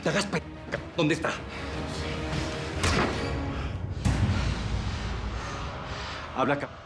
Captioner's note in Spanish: puñetazo